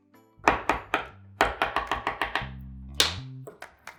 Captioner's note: loud tapping